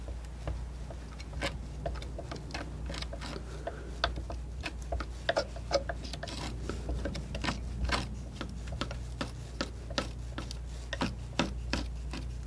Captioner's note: tapping